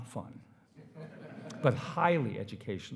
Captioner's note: attendees laughing